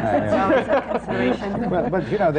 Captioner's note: laughter